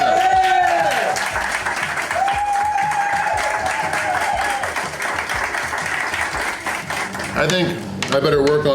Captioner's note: crowd cheering and applause